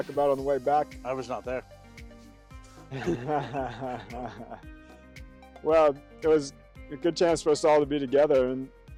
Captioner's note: team laughs